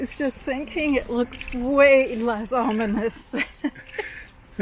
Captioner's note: chuckling